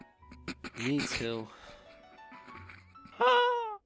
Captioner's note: chuckling